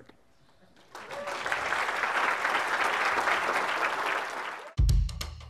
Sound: applause

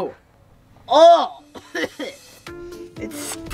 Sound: hacking

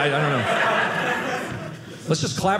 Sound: audience laughing

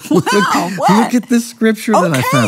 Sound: laughs

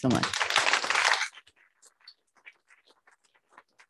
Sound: applause

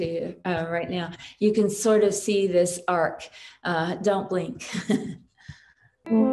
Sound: chuckles; nostalgic music

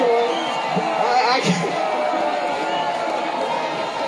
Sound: crowd protesting

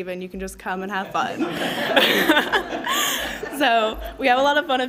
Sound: laughs

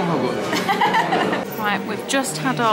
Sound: laughing

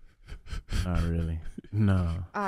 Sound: Iman laughing

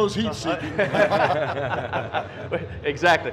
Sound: laughing

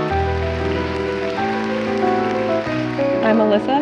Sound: lively piano music; audience applauds

